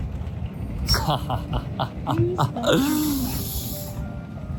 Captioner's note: just laughing